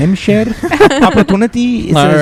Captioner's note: laughter